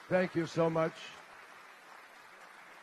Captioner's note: applause